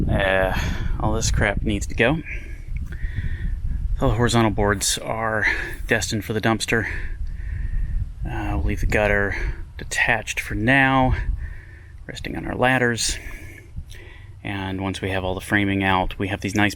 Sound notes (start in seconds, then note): none